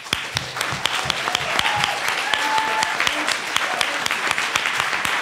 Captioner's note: attendees applauding